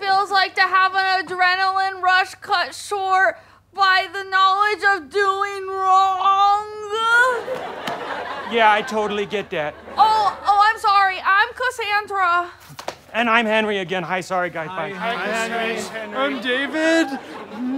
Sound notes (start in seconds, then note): 7.4 audience laughter